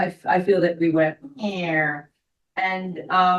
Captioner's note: imitating plane